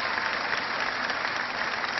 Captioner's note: cheering